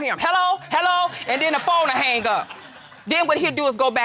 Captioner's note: audience laughing